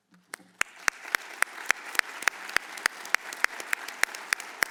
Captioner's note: audience applauds